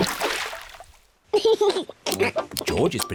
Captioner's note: laughs